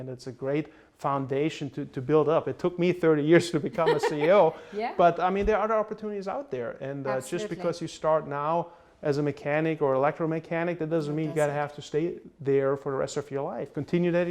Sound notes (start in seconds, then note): 3.7 laughs